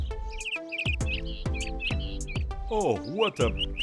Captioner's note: bird singing